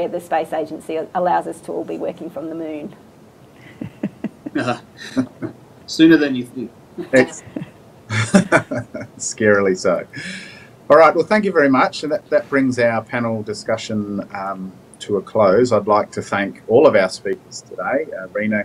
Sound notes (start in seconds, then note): 3.6 panellists laughing; 8.1 panellists laughing